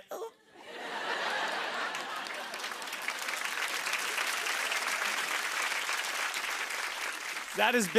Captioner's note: laughter and applause